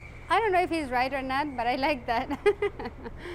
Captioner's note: laughs